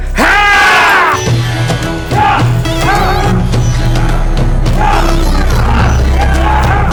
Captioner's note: intense music; both yelling